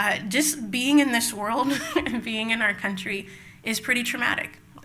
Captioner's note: laughs